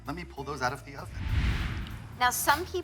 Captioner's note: air whooshing